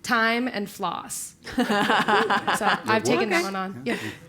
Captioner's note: laugh